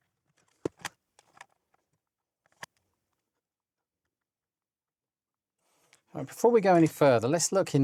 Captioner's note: silence